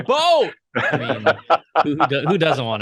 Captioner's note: laughter